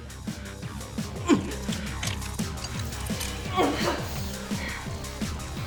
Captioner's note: weapons rattling